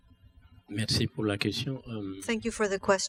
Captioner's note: speaking french